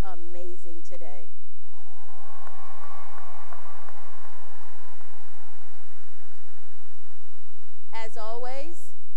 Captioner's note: cheering and applause